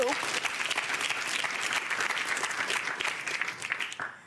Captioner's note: audience applauding